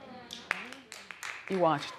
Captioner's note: scattered applause